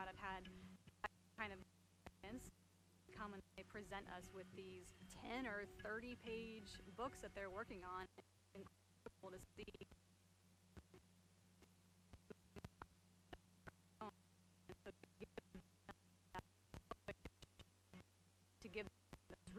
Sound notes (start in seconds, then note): 8.2 stuttering audio